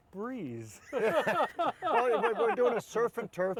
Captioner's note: laughing